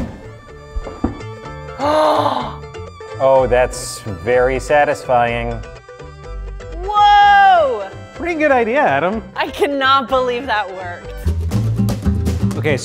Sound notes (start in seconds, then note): 1.7 gasps; 11.5 funky music